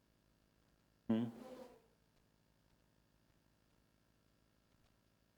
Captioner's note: mic cutting off